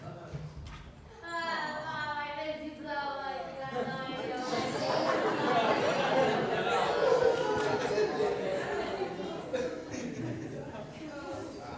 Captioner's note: laughter